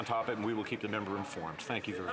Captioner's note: some Applause